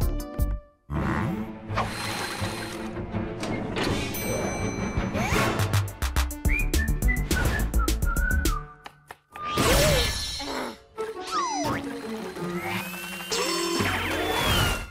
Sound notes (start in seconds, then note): 6.2 theme music; 10.4 gasps and groans; 11.9 robots whir